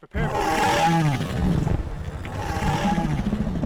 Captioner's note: growling